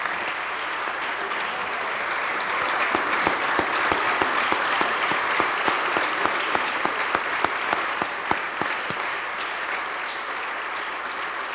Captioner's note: applause